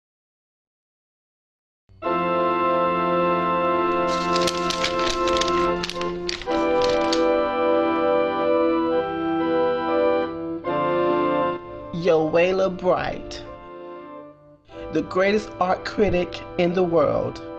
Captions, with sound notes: (light orchestral music) (paper rustling) - Yowalah Bright, the greatest art critique in the world.